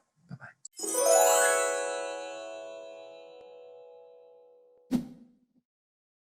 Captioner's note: gentle bell chimes; air whooshing